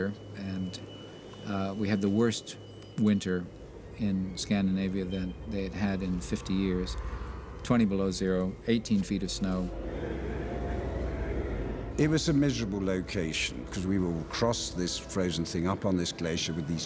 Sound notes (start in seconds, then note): 10.1 wind Howling